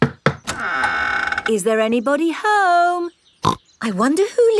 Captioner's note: door creaks; snorts